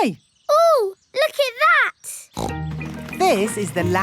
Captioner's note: snorts